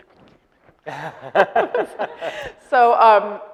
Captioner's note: laughing